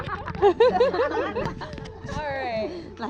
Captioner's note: laughter